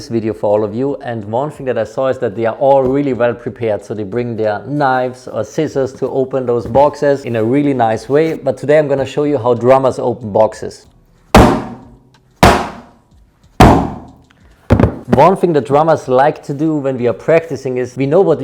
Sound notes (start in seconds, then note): 11.5 puncturing box